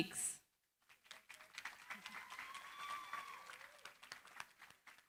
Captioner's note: cheering, applause